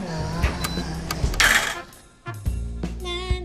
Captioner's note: trying to mimic Marlon Brando; beep, a/c clunks off; dice clanging on metal; Holly hums; jazzy music